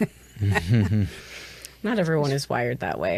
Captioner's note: all chuckle